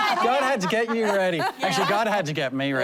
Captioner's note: laughter